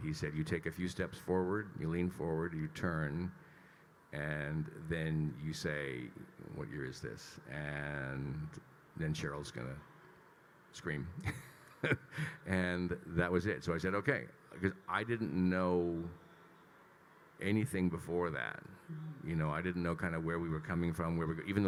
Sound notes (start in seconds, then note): 11.2 laughs